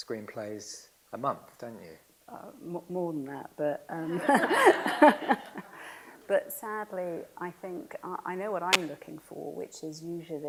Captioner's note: laughs